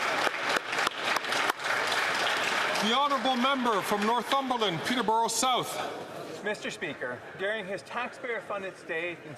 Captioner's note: some Applause